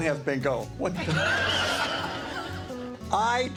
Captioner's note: players laughing